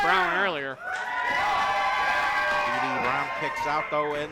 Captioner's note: crowd cheering